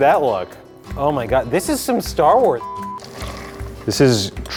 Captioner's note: beep